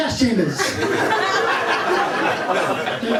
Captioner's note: laughter